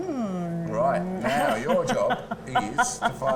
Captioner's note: laughs